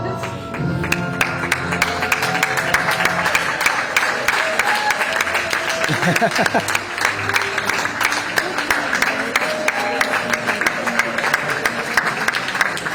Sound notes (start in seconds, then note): 0.2 applause